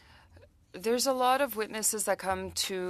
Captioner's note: speaking French